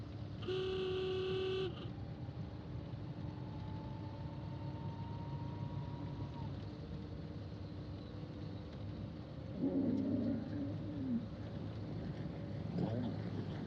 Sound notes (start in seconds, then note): 0.4 horn honks; 9.6 camels groaning